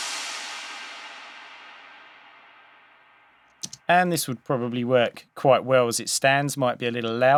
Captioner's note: crash sound